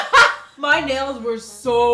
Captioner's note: laughs